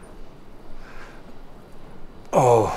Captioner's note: gasp